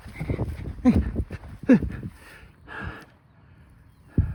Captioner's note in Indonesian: tertawa